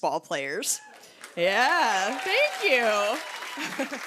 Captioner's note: cheers and applause